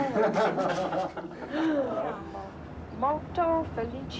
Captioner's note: laughing